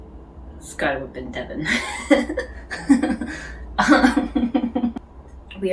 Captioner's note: chuckles